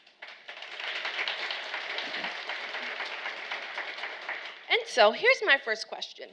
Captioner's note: audience applauding